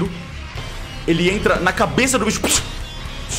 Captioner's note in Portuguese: pshiiu